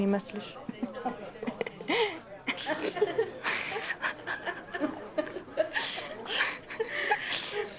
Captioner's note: laughter